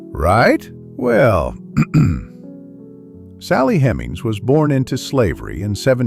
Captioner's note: clears throat